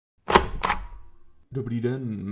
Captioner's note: stamp click